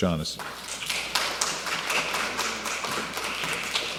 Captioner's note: applause